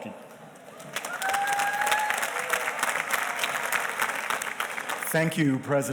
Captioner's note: audience cheers and applauds